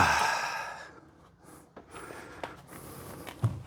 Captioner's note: sighs